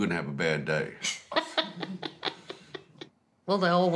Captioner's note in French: laughs